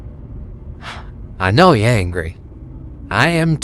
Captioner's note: sighs